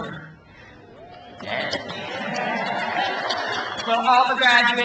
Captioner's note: crowd cheers